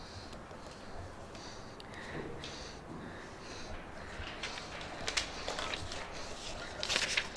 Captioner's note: panicked breathing